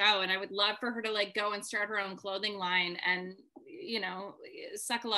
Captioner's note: none